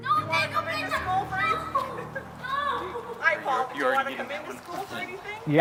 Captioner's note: girl yelling